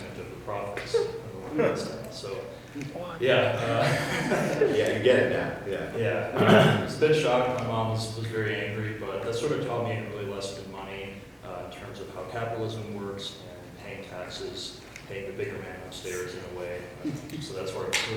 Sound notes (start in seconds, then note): 3.6 chuckles; 6.3 person clears throat